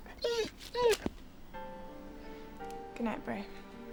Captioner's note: dog whining